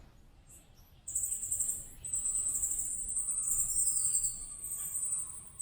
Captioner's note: sound of bats